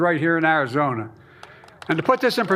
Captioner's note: applause